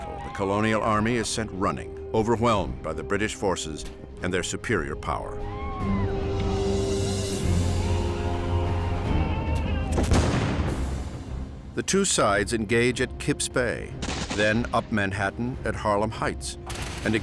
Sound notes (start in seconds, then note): 5.8 dramatic music; 10.0 explosion booming